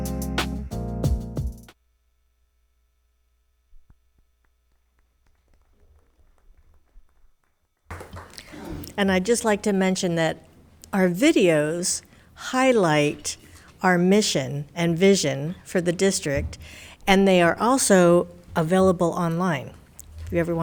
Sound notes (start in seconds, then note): 0.0 light music; 4.5 members clapping hands